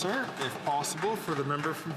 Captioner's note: speaking Indigenous Language